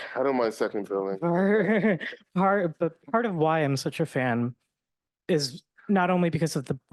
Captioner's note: chuckling